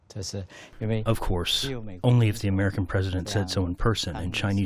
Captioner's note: through translator